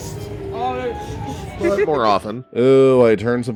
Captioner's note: laughing